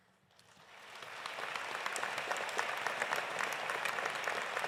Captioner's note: audience applauding